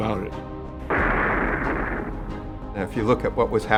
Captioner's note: water blasting